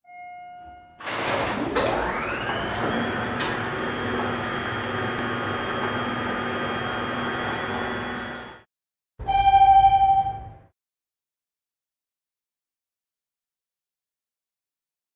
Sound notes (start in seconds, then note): 9.2 elevator chime